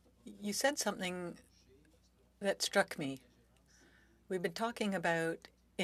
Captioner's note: speaking French